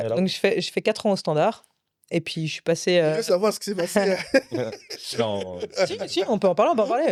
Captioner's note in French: rires